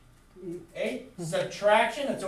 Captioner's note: voiceover